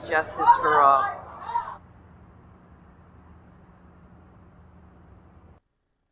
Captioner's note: protester shouting continues